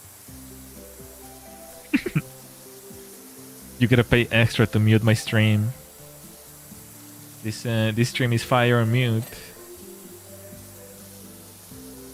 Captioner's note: laughter